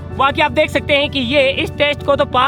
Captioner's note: none